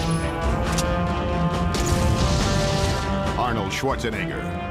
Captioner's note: gun firing; explosives booming